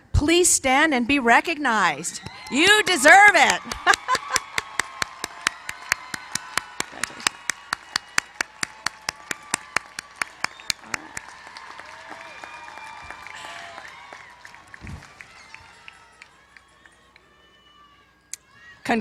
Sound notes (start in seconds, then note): 4.0 cheers and applause